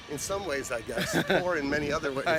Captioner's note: chuckles